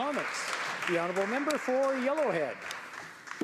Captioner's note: some Applause